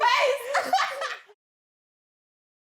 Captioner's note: laughs